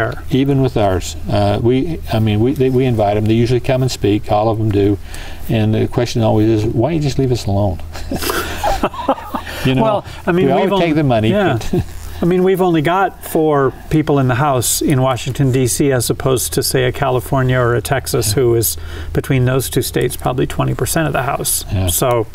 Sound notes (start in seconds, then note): 7.9 laughter